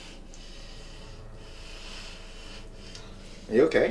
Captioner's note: inhaling deeply